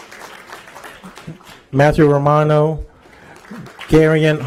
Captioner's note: applause